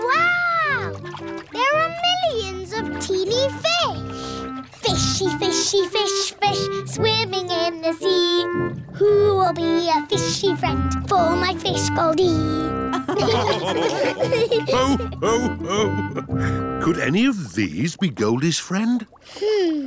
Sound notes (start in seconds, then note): 12.9 all laughing